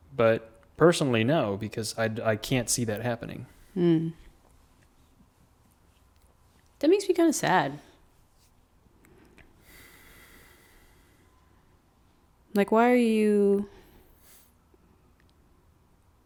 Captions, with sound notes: But personally, no, because I can't see that happening. - Mmm. That makes me kinda sad. (exhales) Why are you...